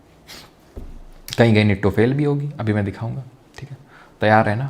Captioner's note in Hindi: नाक से की जाने वाली आवाज़